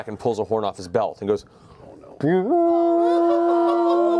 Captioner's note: horn blows